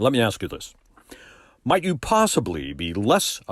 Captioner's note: none